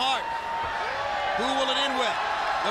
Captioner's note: crowd cheering